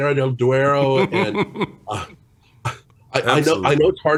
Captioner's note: chuckles